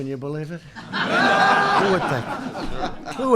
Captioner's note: laughter